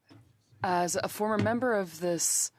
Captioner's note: speaking French